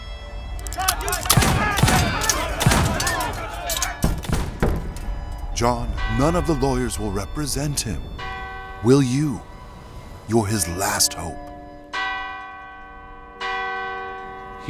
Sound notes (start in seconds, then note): 0.5 crowd yells; 0.8 guns shooting; 11.9 bell rings